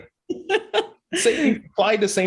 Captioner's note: laughing